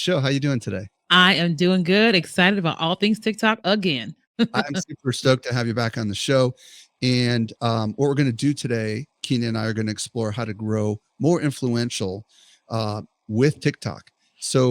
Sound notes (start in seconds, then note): 4.4 laughs